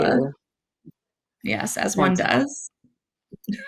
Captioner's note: laughs